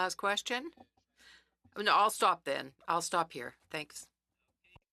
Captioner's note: speaking French